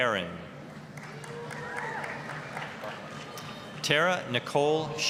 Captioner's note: applause, cheering